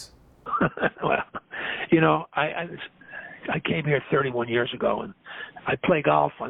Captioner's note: chuckles